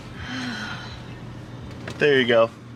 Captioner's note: sighs